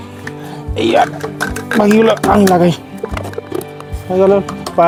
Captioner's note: sound of legs being fitted